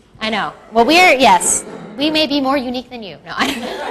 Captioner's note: laughs